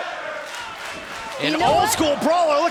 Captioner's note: crowd cheering